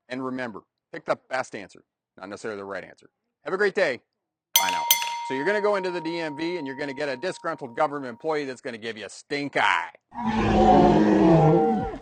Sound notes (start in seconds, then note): 4.5 bell rings; 10.2 creature growls